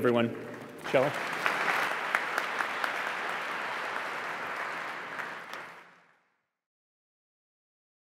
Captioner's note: applause